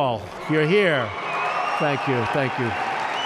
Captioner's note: applause